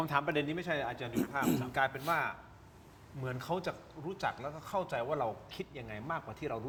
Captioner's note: clears throat